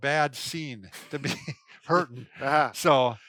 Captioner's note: laughs